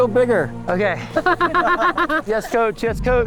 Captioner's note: laughs